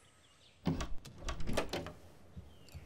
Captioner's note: Door opening